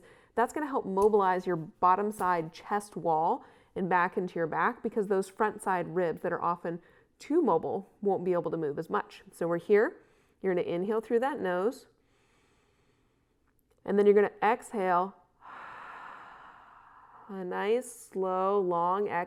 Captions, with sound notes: mobilize your bottom side chest wall and back into your back because those front side ribs that are often too mobile won't be able to move as much. So we're here. You're going to inhale through that nose (inhales) and then you're going to exhale (exhales) A nice, slow, long exhale,